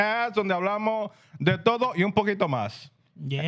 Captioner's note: speaking Spanish